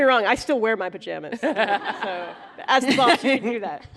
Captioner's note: laughter